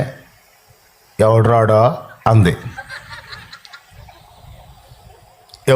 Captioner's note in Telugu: నవ్వు